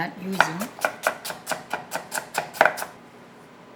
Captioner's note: knife chopping